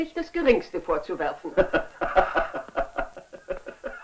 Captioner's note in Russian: смеется